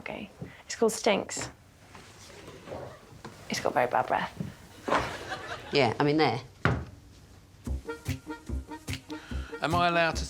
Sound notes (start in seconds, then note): 4.9 audience giggling; 7.5 tennis ball thudding; 7.7 whimsical music